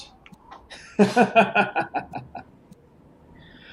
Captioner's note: laughs